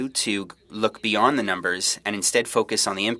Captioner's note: speaking French